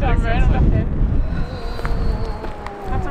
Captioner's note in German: Lachen